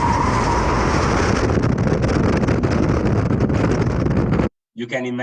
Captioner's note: tires screeching